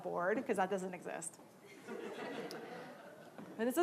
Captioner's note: laughing